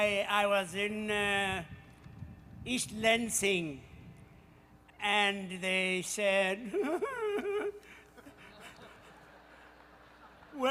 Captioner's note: crying sounds